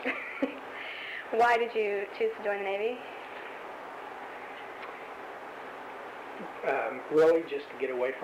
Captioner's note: laughs